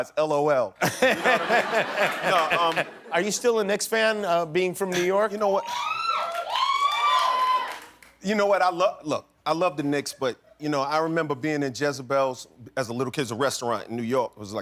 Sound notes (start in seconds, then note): 5.5 cheers